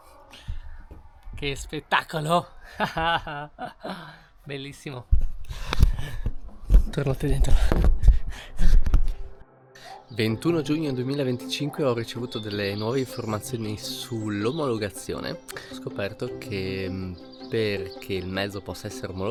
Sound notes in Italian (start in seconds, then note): 2.6 risate